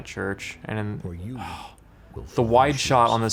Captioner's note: sighing